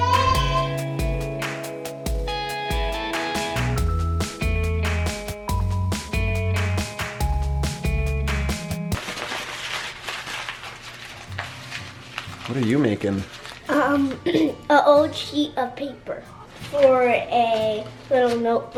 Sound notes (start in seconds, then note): 0.3 upbeat music; 8.9 paper crinkling